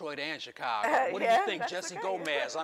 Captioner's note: laughs